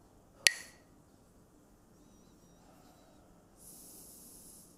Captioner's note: Mooji clacks the sticks